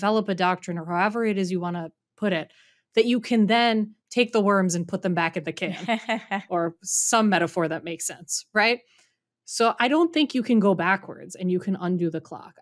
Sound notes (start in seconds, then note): 5.7 laughing